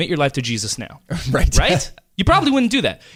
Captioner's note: laughs